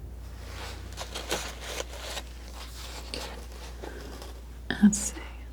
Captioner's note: scratching